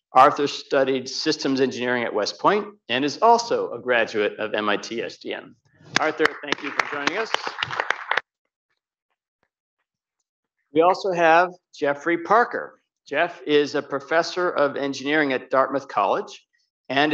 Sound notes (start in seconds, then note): 5.9 audience clapping